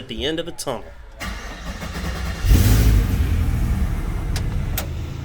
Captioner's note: car engine starting